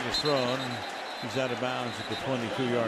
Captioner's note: whistle blowing